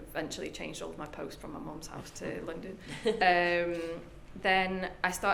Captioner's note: laughs